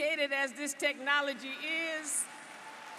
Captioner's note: applause